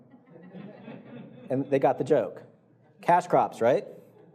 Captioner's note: audience laughing